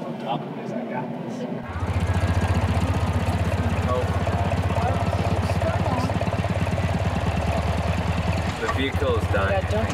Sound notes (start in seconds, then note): 0.1 chattering; 2.0 engine rattling